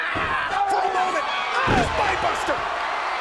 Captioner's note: DiBiase yelling; body thudding